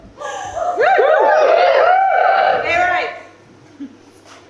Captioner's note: audience whoops, someone shouts GAY RIGHTS!